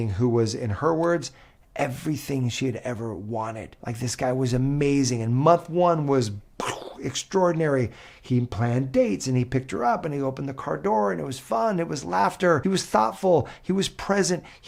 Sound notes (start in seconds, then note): 7.9 breath whooshing